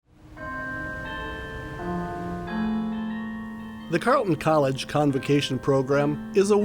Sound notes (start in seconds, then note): 0.4 bell ringing